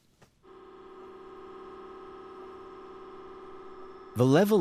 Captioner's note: MRI machine humming